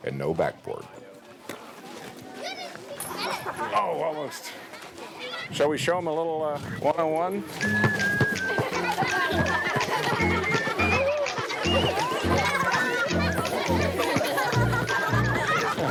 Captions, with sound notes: And no backboard. Shall we show em a little one on one? (bouncy music) (children laughing)